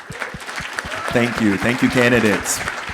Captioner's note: audience applauding